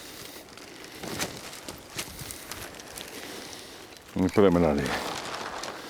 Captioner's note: none